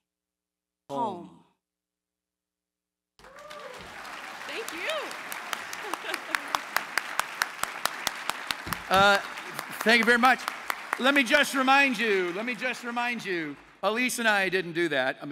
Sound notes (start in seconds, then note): 1.6 applause